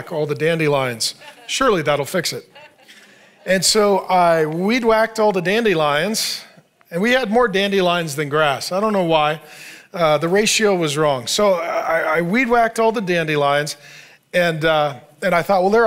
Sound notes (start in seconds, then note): 2.9 congregation laughing